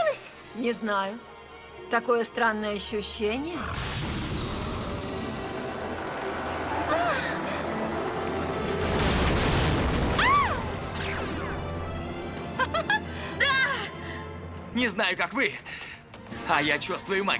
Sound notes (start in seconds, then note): 5.4 rumbling; 11.0 laughs